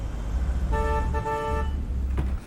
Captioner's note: horn honks